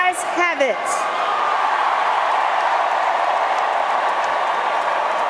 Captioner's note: crowd noise